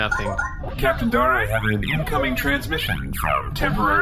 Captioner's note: communicator chimes